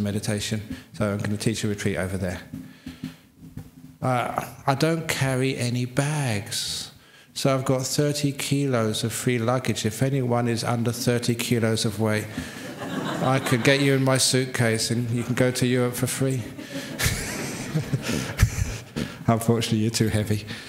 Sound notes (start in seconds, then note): 12.5 laughter; 16.4 laughs